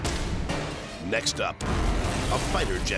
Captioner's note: energetic dramatic music; explosion pounding